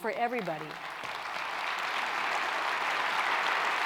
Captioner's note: clapping